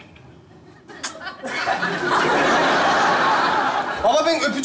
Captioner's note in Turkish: Kahkaha sesleri